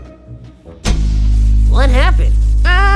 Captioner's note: lights going out sound effect; people screaming